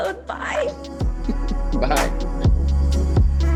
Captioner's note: chuckling; slow techno music